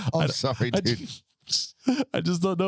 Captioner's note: laughing